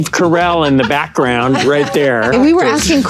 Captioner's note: group laughing